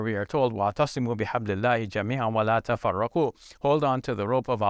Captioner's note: speaking in Arabic